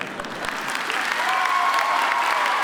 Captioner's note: attendees laugh; attendees applaud